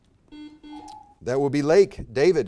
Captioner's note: buzzer beeps